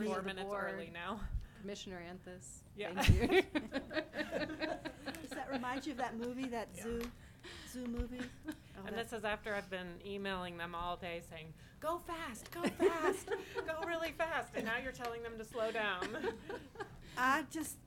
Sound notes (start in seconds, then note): 5.5 all laughing